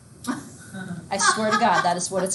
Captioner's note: student laughs